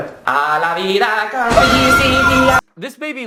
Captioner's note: screaming, chanting continues; chanting